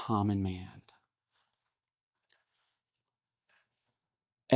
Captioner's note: silence